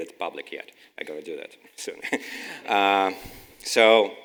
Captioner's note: laughes